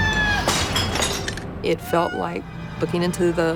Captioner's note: screams